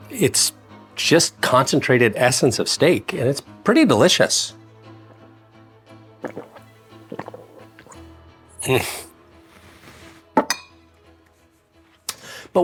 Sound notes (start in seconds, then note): 6.2 throat gulping; 10.4 glass thudding